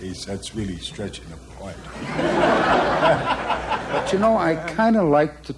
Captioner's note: audience laughter